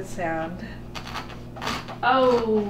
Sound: crunch, crunch, crunch

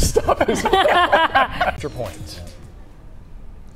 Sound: laughing

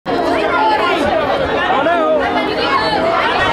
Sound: crowd shouting

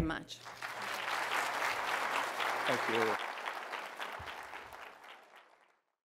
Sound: applause

